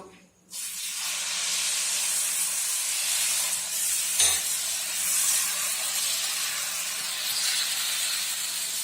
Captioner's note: pan noise